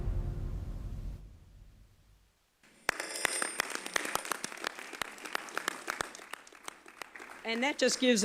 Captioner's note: applause